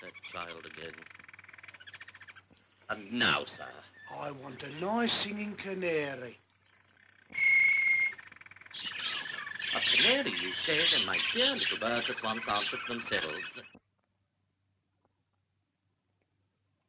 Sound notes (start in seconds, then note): 7.3 whistle; 8.9 birds singing